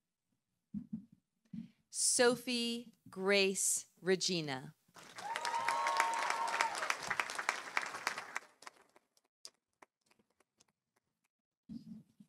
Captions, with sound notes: Sophie Grace Regina. -(audience cheering) -(audience applauding)